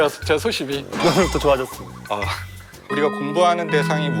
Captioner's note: chuckling